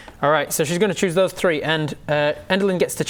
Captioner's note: none